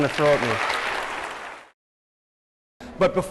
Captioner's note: applause